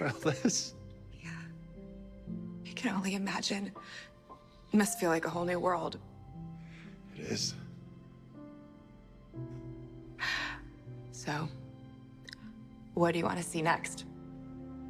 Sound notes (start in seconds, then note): none